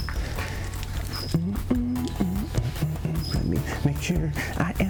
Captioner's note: humming quietly